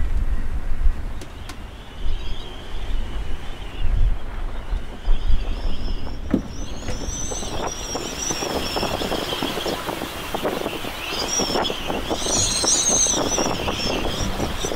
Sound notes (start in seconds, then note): 2.1 mast creaking; 2.1 wind whistling; 8.6 sail flapping